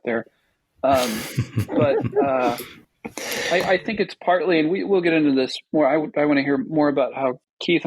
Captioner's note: laughing